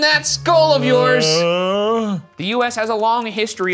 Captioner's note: exclaiming